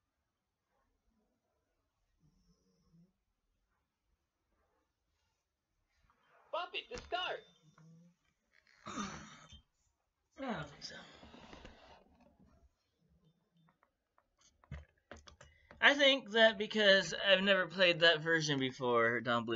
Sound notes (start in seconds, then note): 8.8 sigh